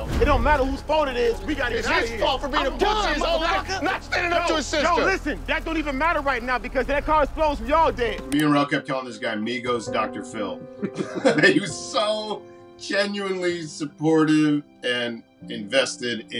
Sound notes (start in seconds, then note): 3.7 men yelling; 10.7 laughing